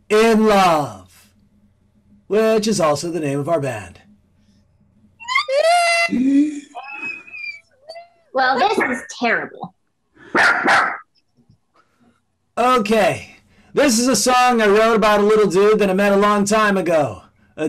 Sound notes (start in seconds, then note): 5.3 crowd screaming; 10.3 dog barks